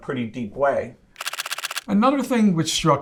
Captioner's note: photos clicking